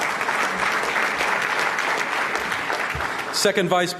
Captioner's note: applause